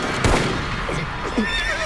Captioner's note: gunshot; horse neighs